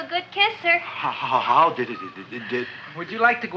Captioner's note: stammering